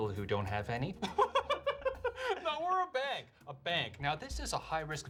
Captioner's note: laughs